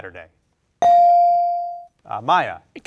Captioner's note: bell rings